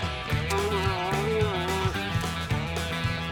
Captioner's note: cow mooing